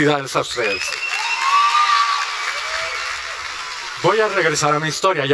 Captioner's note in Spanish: aplauso